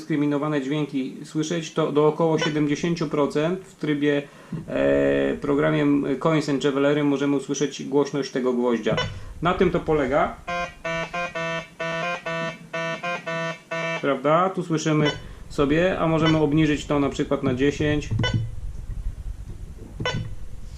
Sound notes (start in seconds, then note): 2.4 beep